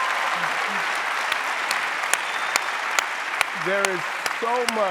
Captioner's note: audience applauding